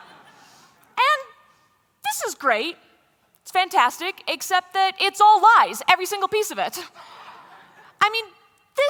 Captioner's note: laughter